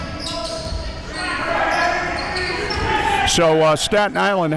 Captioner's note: audience chattering and yelling